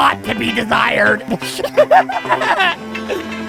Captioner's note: laugh/snort